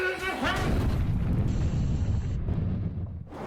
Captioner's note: explosion